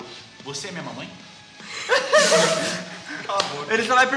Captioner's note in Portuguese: risadas